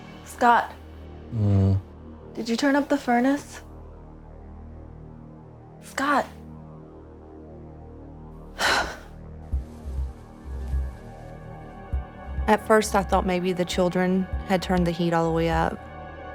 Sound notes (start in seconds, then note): 8.6 deeply exhales